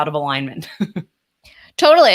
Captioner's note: laughs